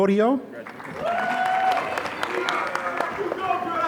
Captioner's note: applause